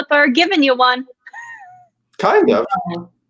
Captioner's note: laughter